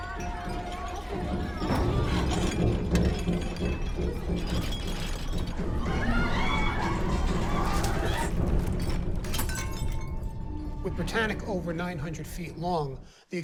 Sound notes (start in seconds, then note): 0.0 women yelling; 1.2 dishes clattering; 5.8 women yelling; 8.7 glass shattering